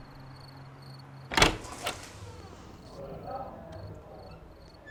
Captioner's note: door handle clicks